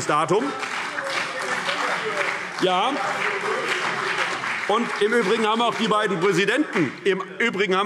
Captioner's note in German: Beifall CDU und BÜNDNIS 90/DIE GRÜNEN - Zurufe SPD und Freie Demokraten